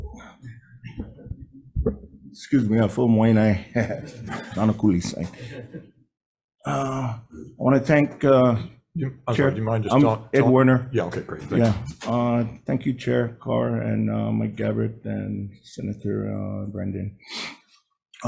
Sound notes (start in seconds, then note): 3.8 attendees laughing drowns out